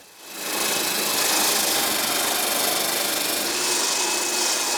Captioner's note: trimmer whirring